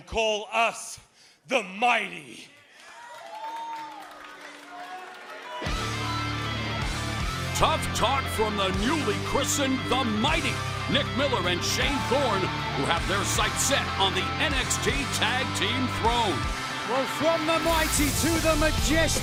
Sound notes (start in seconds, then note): 2.4 crowd cheering